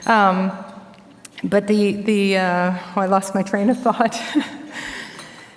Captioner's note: chuckles